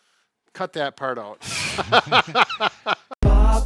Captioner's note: laughing; upbeat drums